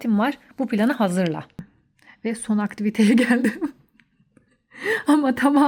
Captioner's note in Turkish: kahkaha